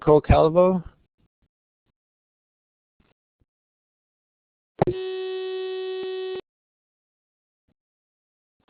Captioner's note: dead air